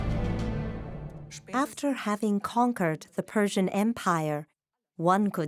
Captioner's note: in German